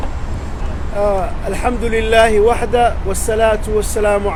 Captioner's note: Arabic